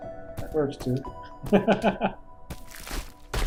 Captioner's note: chuckles